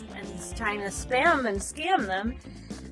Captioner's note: none